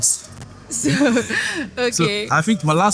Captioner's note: laughing